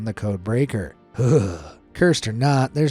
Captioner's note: narrator shuddering